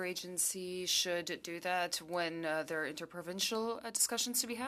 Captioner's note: speaking French